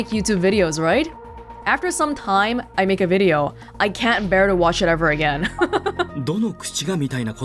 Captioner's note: chuckles